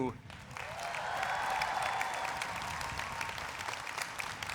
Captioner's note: people cheer